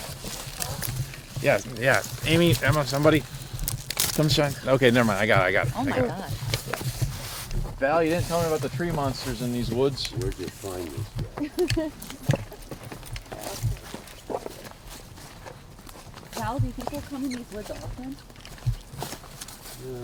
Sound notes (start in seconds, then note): 11.3 riendo; 13.4 hablando en voz baja